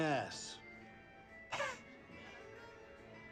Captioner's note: gasps